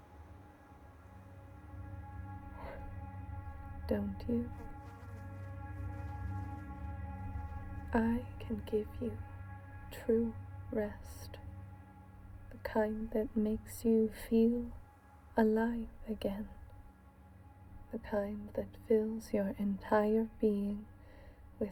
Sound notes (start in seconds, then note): 0.2 suspenseful music; 5.6 fly buzzing